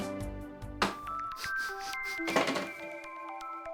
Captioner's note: sniffing